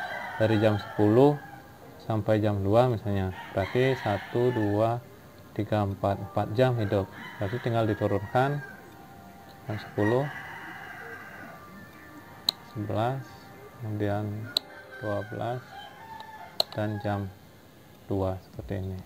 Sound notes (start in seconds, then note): 12.4 click; 16.6 click